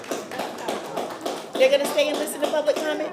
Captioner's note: applause